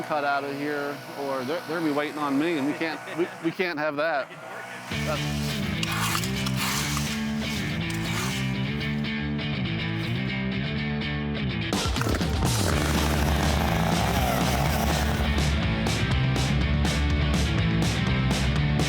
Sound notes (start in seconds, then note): 4.5 energetic music; 11.8 saw buzzing; 14.9 energetic music continues